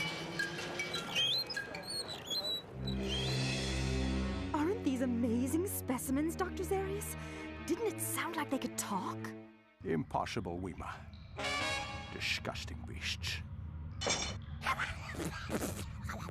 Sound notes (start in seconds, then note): 0.0 wheels squeaking; 14.6 sputtering